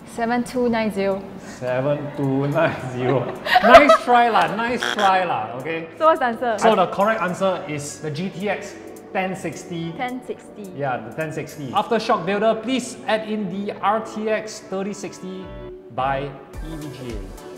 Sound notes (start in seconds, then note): 3.0 laughs; 5.7 laughs